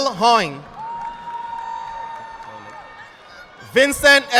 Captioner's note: audience clapping